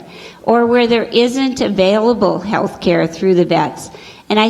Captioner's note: none